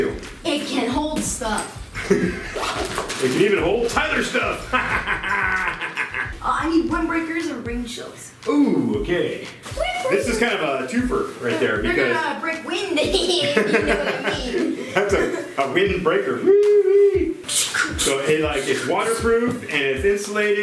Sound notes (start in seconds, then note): 4.6 laughs; 13.1 laughing